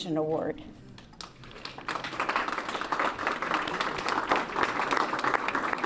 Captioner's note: applause